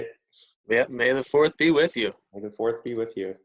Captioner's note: chuckles